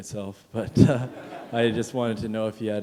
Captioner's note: chuckle